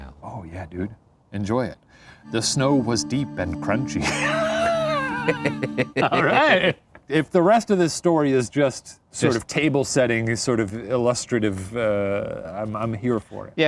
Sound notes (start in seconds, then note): 3.9 men laughing